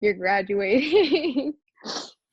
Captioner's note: laughing